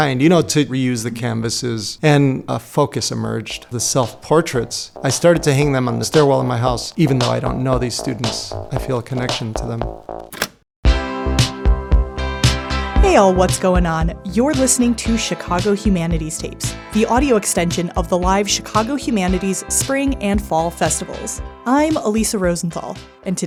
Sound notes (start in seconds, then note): 10.3 cassette player clicks open; 13.0 theme music plays